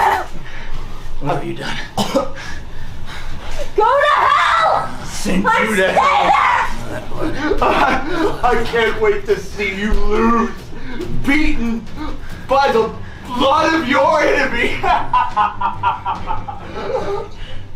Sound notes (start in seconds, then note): 14.3 laughing